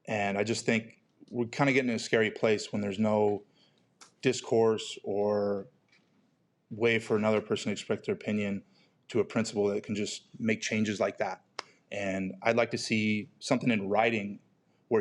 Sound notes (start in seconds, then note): none